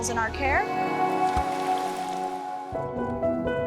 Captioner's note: water splashes; gentle music